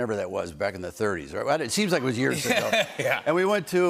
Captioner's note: laughter